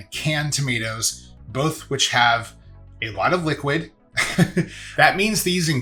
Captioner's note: laughs